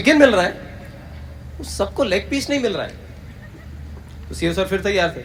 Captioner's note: some Laughter